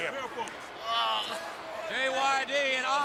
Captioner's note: crowd chatter